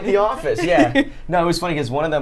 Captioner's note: Safiya laughs